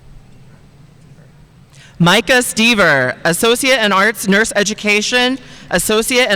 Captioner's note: none